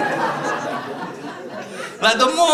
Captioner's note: laughter